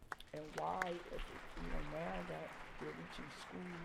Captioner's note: audience applauding